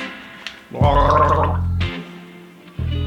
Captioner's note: gargling noises